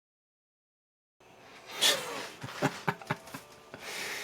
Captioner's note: laugh